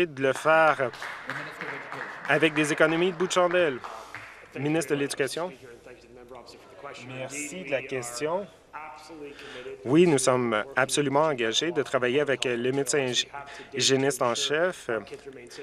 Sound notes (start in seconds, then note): 2.9 some Applause